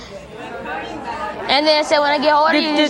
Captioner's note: audience murmuring